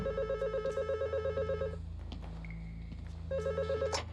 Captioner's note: ring